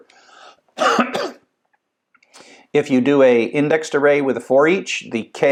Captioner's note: cough